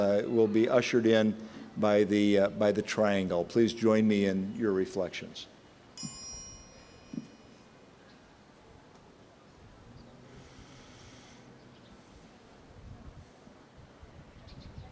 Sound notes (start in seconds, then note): 5.9 ding